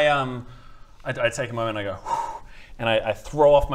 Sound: phew

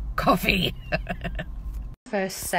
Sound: laughing

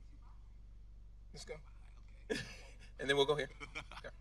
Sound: chuckling

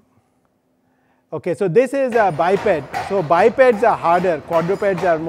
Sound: feet clatter

